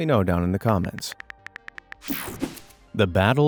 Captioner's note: cell phone keyboard clicking